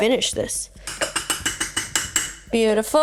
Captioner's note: clattering loudly